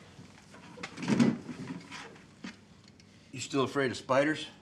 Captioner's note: box thuds